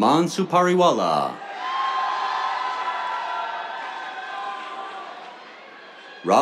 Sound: cheers, applause

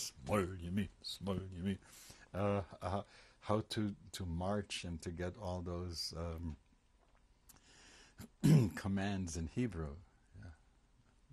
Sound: hebrew; pauses for 3 seconds

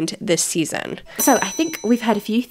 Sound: bell dings

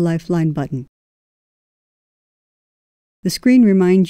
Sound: silence

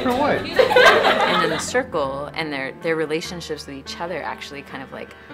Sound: background conversations

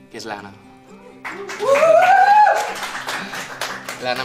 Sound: applause

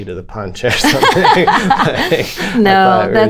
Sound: laughter

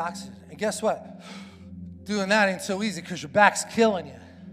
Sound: inhaling

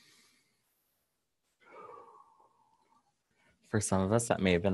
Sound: takes a deep breath

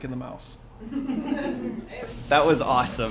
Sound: laughter

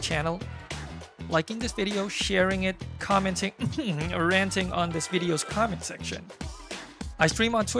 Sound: ahem

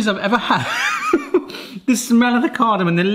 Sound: laughing

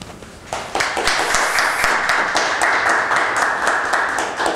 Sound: applause

